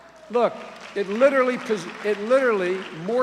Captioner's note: cheering and applause